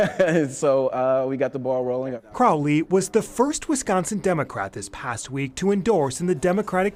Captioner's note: laughter